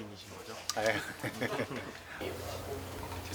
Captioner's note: laughs